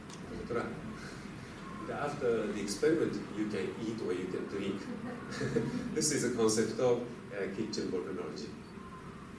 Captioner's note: laughter